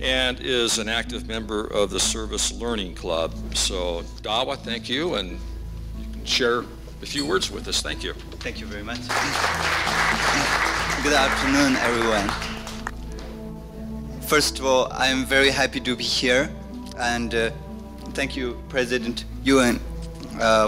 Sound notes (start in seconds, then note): 9.0 applause